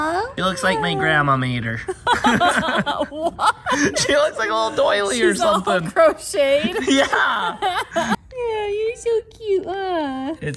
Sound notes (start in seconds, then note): 1.8 laughs; 6.4 laughs